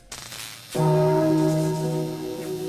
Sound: church bell

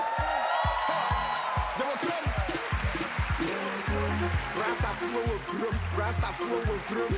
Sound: cheers and applause

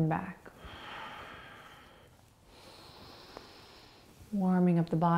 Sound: breathing

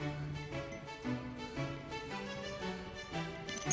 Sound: bell dinging

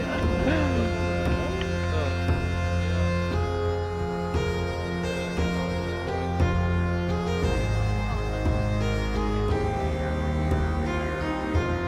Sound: all laugh; mysterious Celtic Music; soft background chatter

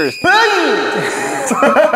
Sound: echoes

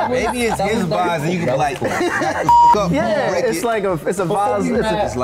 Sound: beep

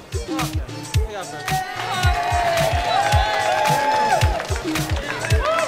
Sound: everyone cheers and claps

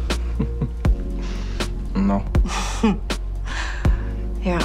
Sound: chuckling

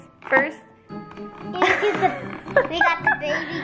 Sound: laughing

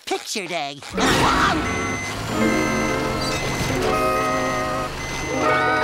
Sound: beeping

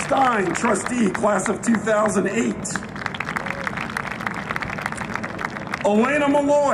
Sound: applause

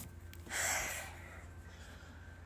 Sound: sighs

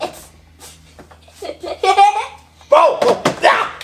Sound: assistant laughs

